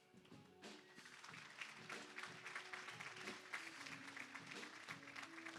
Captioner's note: applause